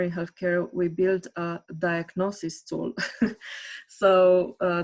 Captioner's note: chuckles